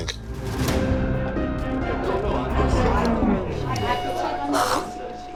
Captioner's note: bar chatter